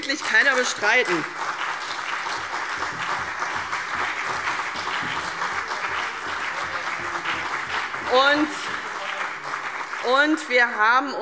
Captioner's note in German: Beifall : Nebelkerze!